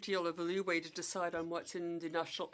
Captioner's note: speaking French